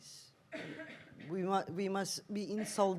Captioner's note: audience member coughs